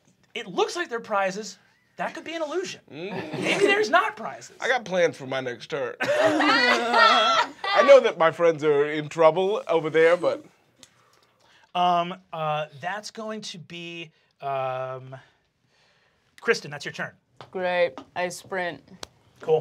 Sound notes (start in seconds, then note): 6.0 laughing